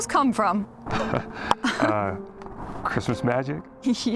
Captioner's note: Carl and Harmony giggle